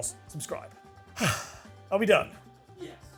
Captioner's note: sighs